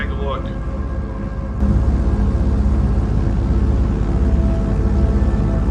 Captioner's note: airplane engine rumbling